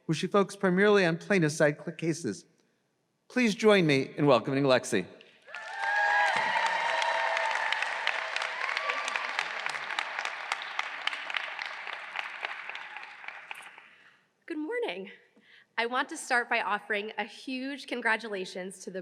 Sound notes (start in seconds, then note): 5.4 audience cheering